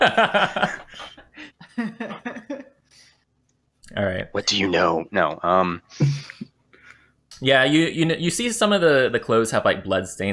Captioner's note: laughter